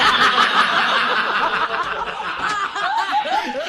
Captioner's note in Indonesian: tertawa